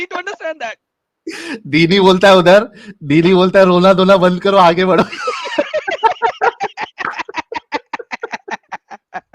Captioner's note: laughter